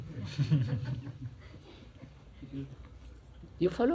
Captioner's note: laughter